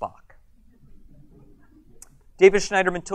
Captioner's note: audience chuckles